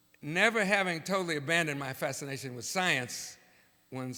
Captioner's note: none